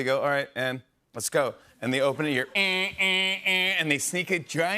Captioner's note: imitating alarm